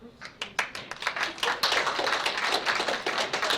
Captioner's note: applause